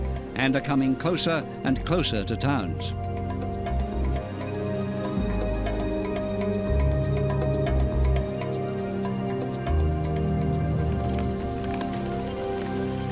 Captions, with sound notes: and are coming closer and closer to towns. [locusts fluttering]